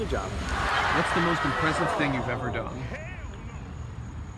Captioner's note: audience audibly upset; audience laughs